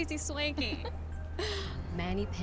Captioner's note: Candace laughs